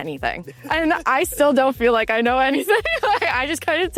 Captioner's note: laughs